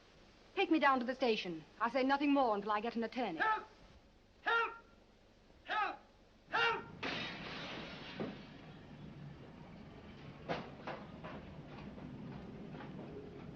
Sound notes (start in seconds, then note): 6.9 distant Crash; 10.4 muffled Crashes & Thuds